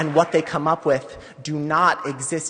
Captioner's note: applause; applause